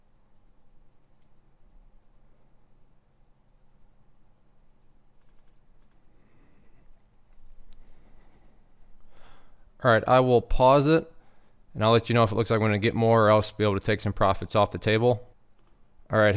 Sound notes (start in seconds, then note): 5.2 mouse clicking